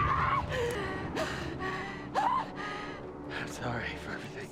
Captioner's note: screaming